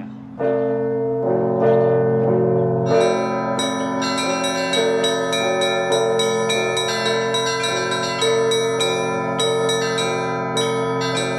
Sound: bell rings

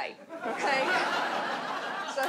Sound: audience laughs

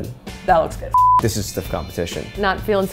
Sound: beep

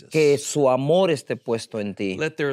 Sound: speaking in Spanish

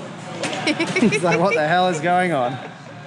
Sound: chuckles

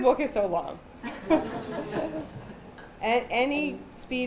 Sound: chuckling

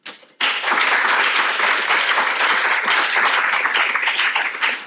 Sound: audience applauding

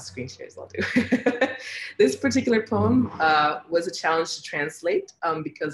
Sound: laughs

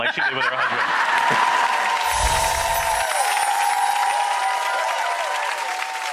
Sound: audience cheers and applauds

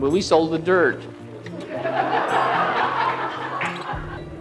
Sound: laughter

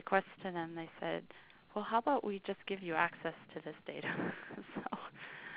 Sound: laughing

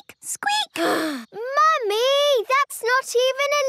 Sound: sighs

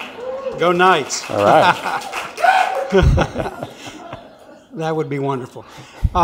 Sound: audience cheers

